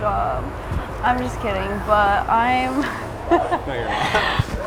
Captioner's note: laughing